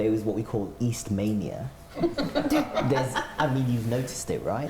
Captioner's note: laughter